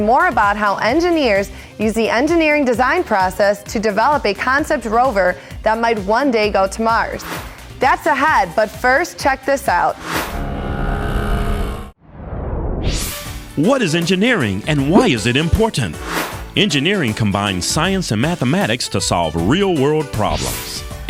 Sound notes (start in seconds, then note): 10.3 sound Effects